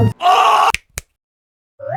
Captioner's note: screams of agony; snapping